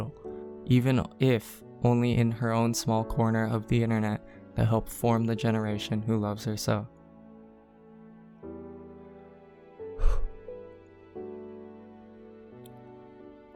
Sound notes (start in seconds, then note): 9.9 sigh of relief